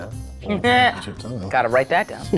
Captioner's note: speaks faintly